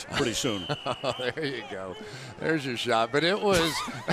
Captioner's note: laughs